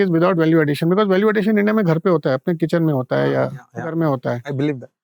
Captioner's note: speaking in Hindi